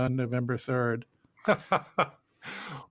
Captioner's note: laughs